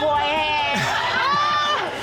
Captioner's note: audience exclaims